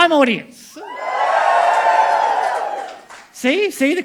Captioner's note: crowd cheers